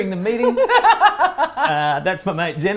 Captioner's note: laughs